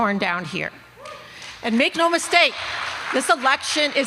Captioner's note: applause